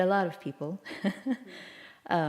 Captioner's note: laughter